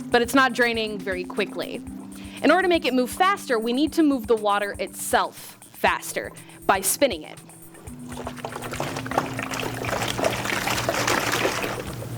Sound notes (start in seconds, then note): 7.3 water sloshing